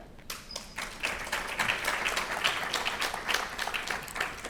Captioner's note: audience clapping